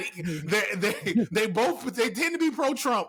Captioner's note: laughing